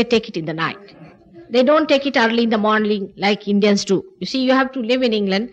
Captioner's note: laughter